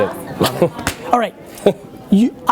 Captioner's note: chuckling